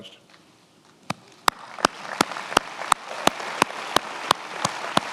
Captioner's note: attendees applauding